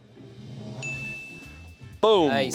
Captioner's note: chime dings